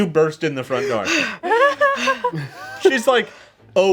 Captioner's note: catching breath